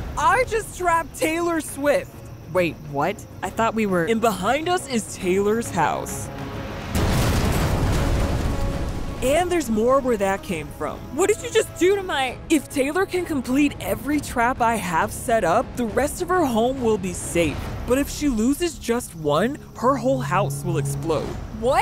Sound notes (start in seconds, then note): 6.8 house exploding